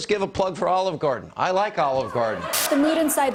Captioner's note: laughter